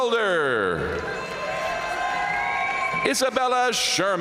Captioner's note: audience cheering and applauding